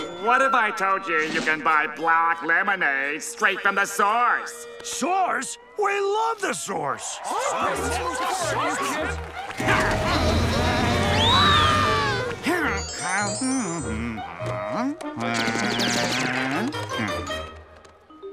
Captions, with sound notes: What if I told you you can buy black lemonade straight from the source? Source? We love the source! [murmuring in agreement] Whoa! [humming]